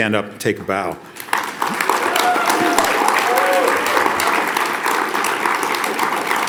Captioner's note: audience applauds and cheers